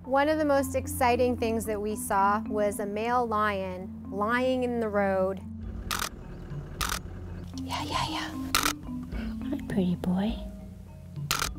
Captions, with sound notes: One of the most exciting things that we saw was a male lion lying in the road. (camera clicks) Yeah, yeah yeah! Hi, pretty boy!